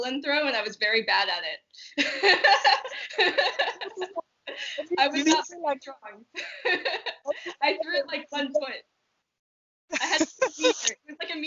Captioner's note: laughter